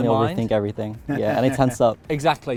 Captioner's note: instructor laughs